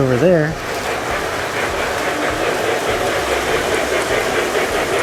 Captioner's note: trains whir and chug